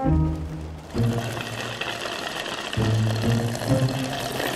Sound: slu-u-rp

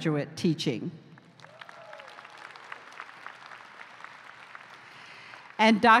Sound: applause

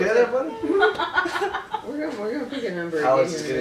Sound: woman laughing

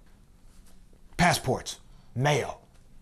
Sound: none

